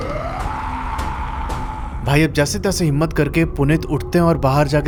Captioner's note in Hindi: चीखने की आवाज़